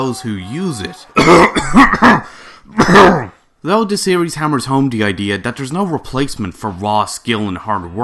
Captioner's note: cough cough